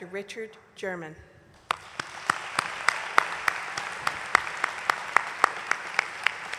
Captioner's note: applause